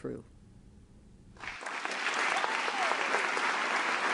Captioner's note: applause